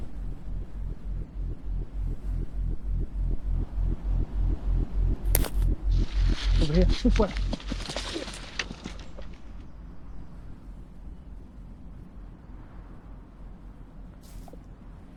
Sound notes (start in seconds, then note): 0.5 heartbeat growing louder; 5.2 branch snaps